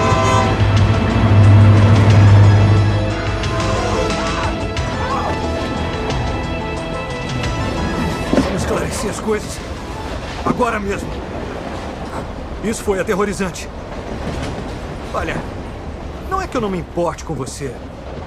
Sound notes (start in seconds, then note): 0.1 suspenseful music builds; 4.8 Booth screams